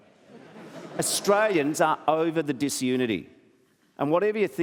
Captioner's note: laughter